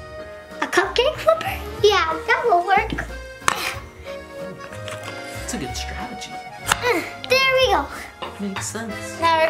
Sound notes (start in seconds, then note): 3.3 banging spatula; 6.6 chopping toy